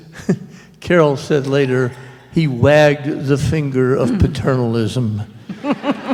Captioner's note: laughter